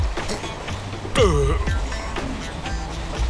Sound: burping

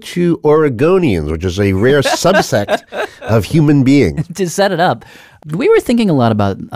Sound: laughs

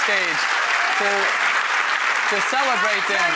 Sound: applause; audience cheers

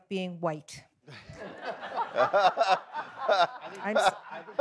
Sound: audience laughs

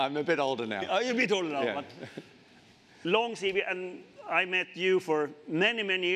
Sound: chuckles

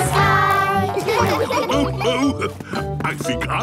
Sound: laughs

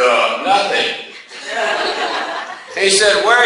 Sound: class laughs

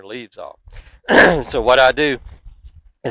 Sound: coughs

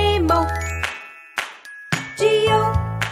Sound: clap; clap

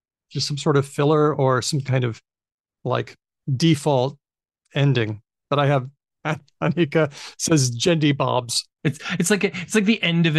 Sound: chuckles

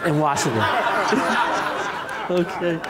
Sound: laughter

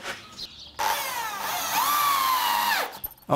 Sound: whirring of the drill bit

